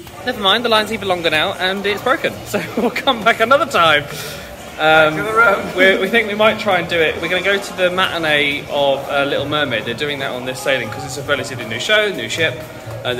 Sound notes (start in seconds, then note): 2.4 chuckling